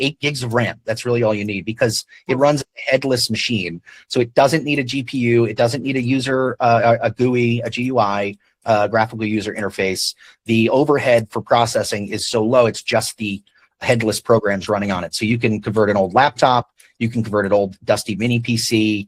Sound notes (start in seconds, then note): none